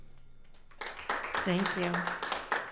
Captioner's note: audience applauds